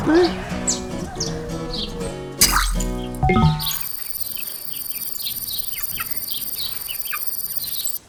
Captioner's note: beeps